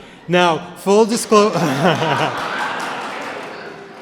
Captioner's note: laughter; applause